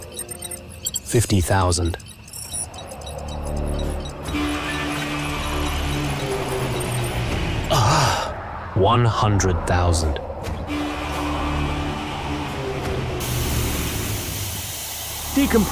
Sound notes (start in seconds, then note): 0.1 beeps; 3.4 alarm sounds; 11.6 alarm sounds